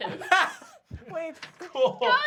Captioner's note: laughter